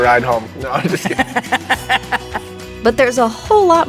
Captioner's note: all laughing